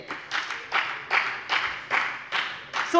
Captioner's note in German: Beifall bei der FDP